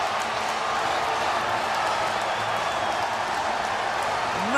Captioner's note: applause